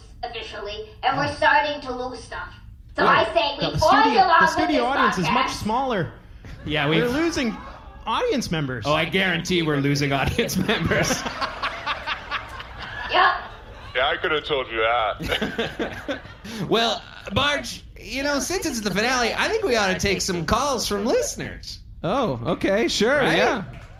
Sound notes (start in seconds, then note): 5.7 individual audience members yelp; 10.3 laughing